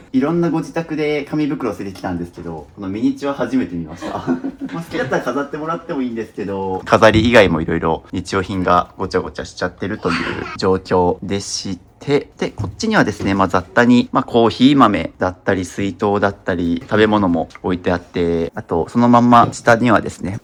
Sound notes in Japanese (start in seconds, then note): 4.0 笑い